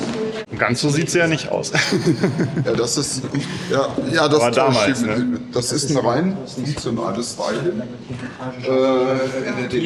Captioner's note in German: gelächter